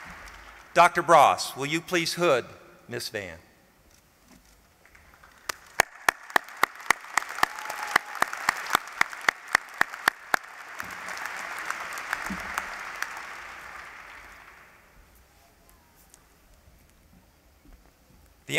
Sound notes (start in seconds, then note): 4.8 applause